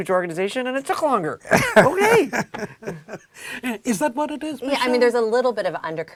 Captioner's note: laugh